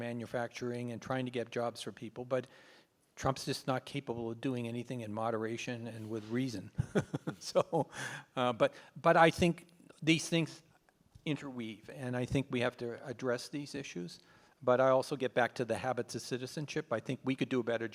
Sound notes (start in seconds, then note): 6.8 laughs